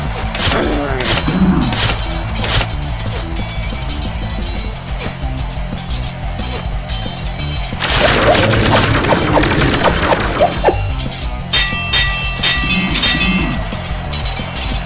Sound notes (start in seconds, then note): 0.0 arrows whooshing; 7.8 lasers blasting; 11.9 swords clanging